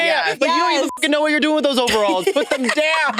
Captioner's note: beep